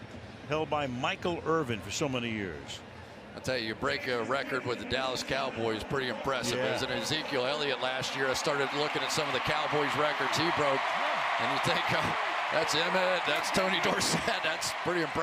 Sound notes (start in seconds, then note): 11.5 cheering